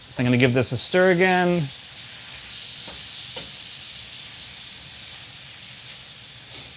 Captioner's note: sizzling